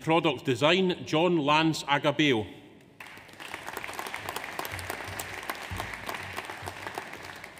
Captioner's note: audience applauds